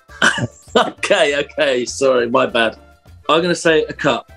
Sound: laughing

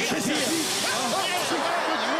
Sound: all gasp

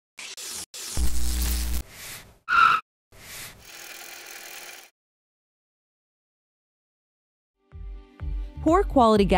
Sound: gear noises, upbeat music plays

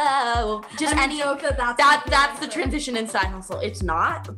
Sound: murmurs

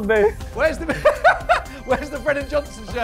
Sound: laughs

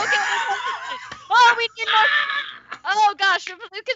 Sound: laughing drowns out speaker

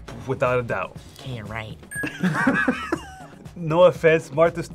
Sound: laughs

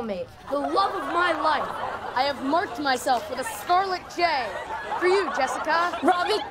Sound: laughter from crowd

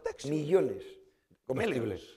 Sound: spanish

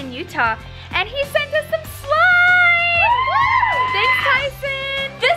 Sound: kids cheering

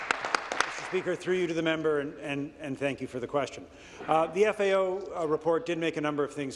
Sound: applause

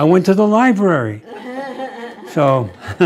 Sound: laughter

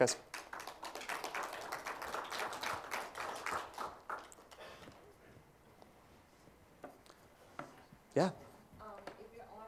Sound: applause

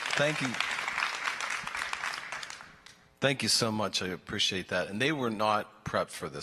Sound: applause

